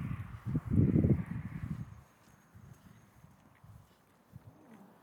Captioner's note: wind